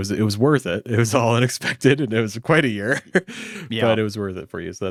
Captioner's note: laughs